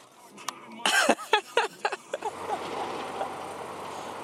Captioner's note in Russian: смеётся